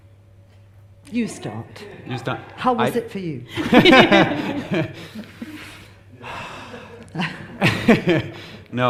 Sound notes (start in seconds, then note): 3.5 everyone laughs; 6.4 laugh